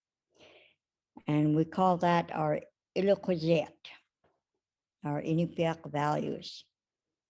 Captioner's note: speaks in Inupiaq